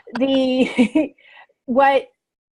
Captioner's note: laughs